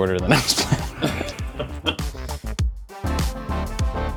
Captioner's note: laughing